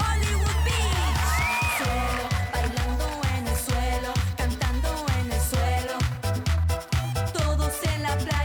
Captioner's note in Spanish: Gritos y exclamaciones